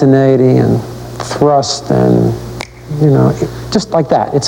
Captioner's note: clicks fingers